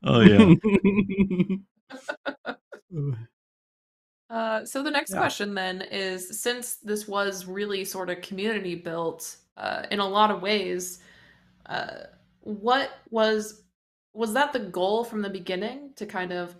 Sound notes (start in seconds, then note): 0.1 laughter